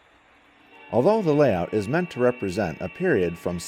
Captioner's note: voiceover